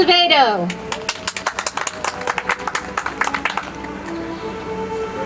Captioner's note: audience applauds